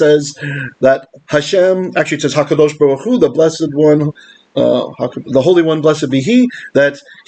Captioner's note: Hebrew